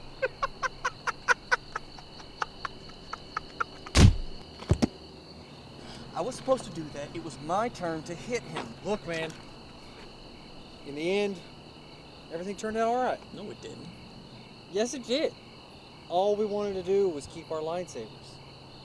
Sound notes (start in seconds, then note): 0.0 laughing; 3.9 blow lands